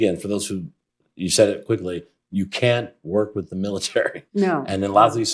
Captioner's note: laughs